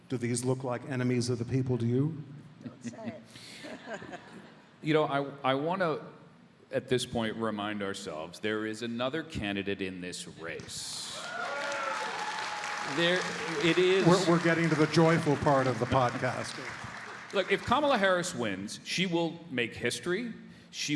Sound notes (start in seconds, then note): 11.0 audience applauding and cheering